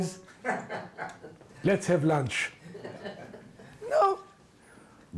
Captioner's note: audience laughs